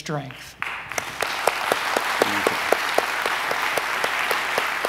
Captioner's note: audience applauds